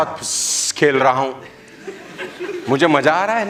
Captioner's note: laughing